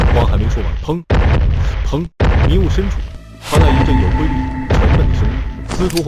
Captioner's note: boom, boom